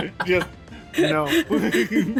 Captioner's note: laughter